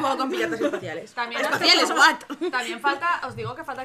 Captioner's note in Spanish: risas